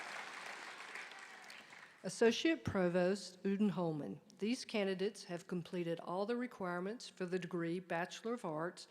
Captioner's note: applause